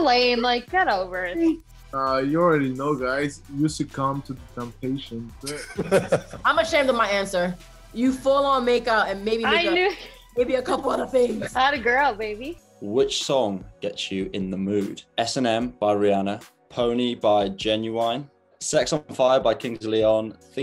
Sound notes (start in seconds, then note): 10.4 laughing